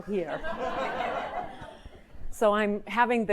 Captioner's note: audience laughing